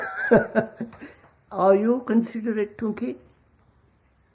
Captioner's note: laughs